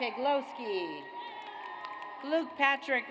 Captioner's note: audience applauds